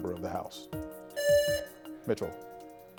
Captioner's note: presses buzzer